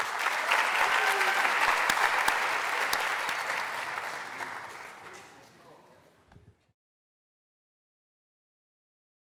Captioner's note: applause